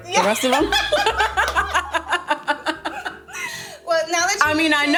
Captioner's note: all laughing